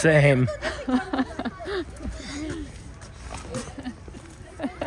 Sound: mom laughing

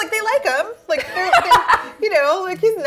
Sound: laughs

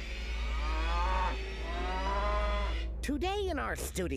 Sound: cow mooing

